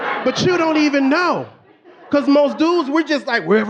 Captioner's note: audience laughing